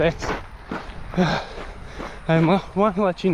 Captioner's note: sighs